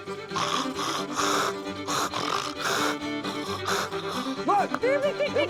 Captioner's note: imitates a hog grunting